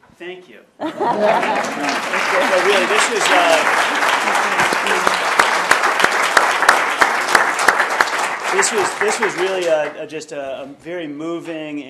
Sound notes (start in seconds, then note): 4.5 applause